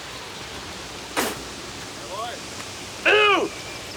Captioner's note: Ignacio spits